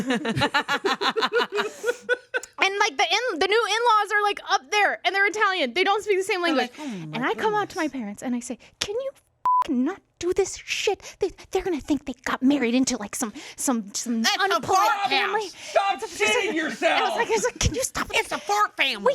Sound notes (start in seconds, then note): 0.0 everyone laughs; 9.4 beep